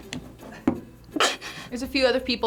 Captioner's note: snickers